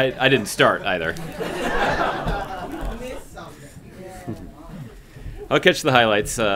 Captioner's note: laughter